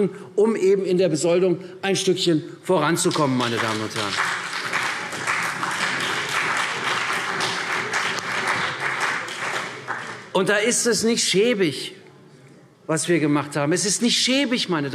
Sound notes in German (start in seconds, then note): 3.0 Beifall CDU und BÜNDNIS 90/DIE GRÜNEN